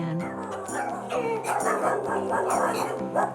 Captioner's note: dogs barking